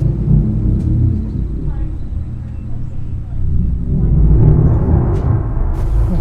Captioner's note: dramatic music; people chattering